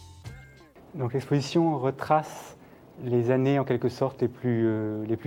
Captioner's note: speaking French